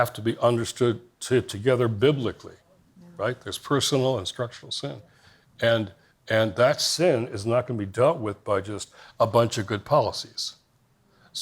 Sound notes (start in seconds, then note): none